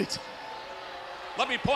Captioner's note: audience jeers